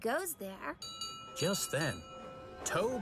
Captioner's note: ding-Ding